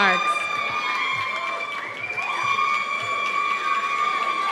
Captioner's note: cheers and applause